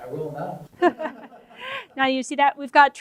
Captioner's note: laughs